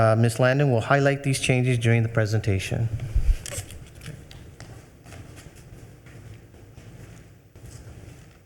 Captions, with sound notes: Ms. Landon will highlight these changes during the presentation. (attendees rustling)